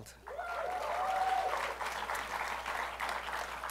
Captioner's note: applause